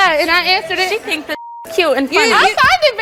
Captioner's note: beeps